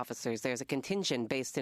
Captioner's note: speaking French